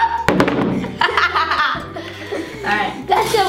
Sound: laughs

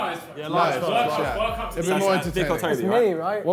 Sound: group audibly agrees

